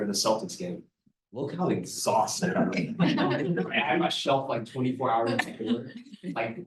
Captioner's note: laughter